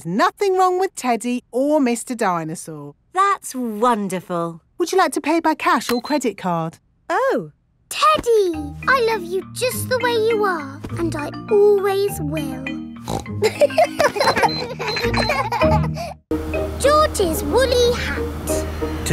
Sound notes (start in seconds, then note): 13.0 snorts; 13.4 kids laughing